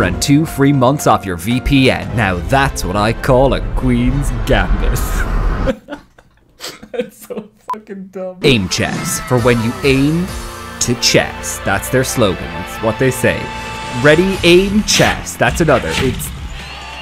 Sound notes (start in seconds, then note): 5.6 laughter